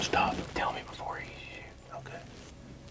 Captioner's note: whispering